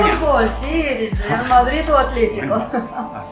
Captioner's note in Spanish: Voces de trasfondo